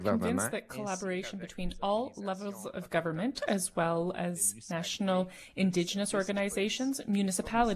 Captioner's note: speaking French